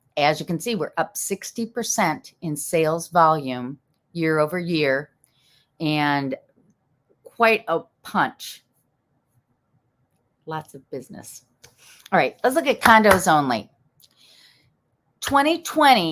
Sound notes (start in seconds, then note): 13.0 clapping